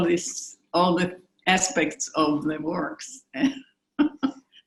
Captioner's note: chuckling